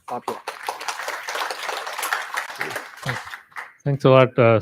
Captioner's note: applause